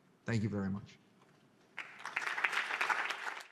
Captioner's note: audience clapping